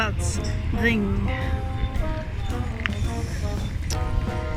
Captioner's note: traffic & crowded noice